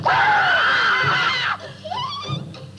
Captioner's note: screaming; giggling